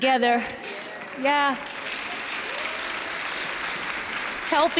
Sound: cheers and applause

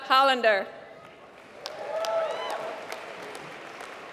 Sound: applause

